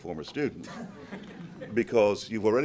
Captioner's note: group laughs